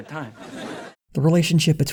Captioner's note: audience laughter